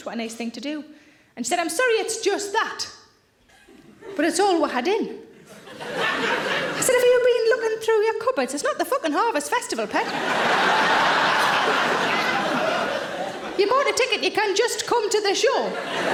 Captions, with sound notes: What a nice thing to do." And she said, "I'm sorry it's just that, but it's all we had in." I said, "Have you been looking through your cupboards? It's not the fucking Harvest Festival, pet. (audience laughing) You bought a ticket, you can just come to the show."